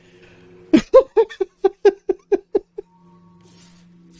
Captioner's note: laughs some more